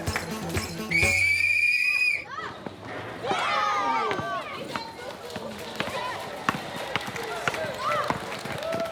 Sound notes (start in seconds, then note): 0.8 whistle blowing